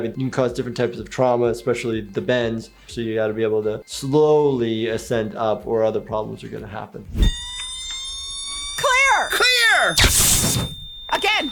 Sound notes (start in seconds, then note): 7.2 defibrillator charging; 10.0 defibrillator zapping; 10.0 long high-pitched beep